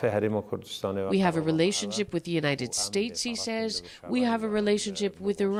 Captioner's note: speaking alternate language